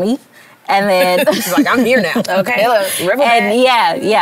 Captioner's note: laughter